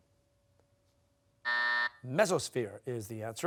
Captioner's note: buzzer